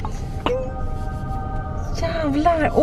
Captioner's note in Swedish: ljudeffekt av änglakör